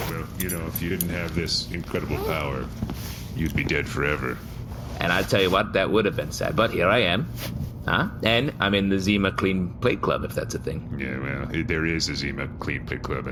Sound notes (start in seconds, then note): 7.5 optimistically